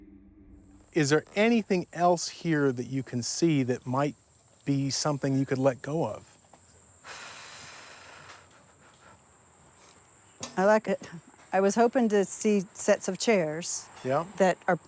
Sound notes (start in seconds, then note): 7.0 sighs